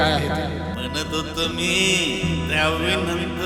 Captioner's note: father slurring